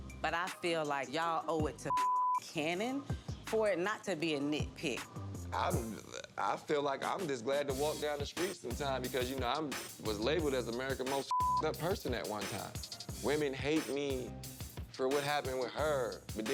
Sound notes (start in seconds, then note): 1.8 beep; 11.2 beep